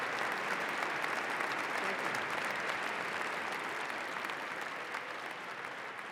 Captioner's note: applause